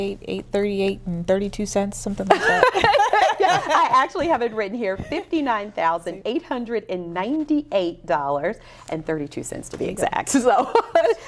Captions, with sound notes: SOMETHING LIKE THAT. [LAUGHTER] I ACTUALLY HAVE IT WRITTEN HERE, $59,898.32 TO BE EXACT, SO.